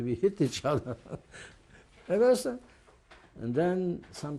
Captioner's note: laughs